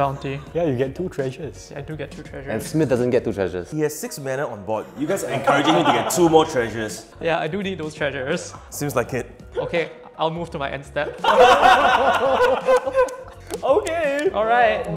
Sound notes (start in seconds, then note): 9.3 laughs; 11.2 all laughing